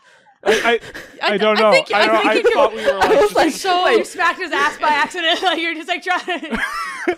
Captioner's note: Alyssa and Zoe laugh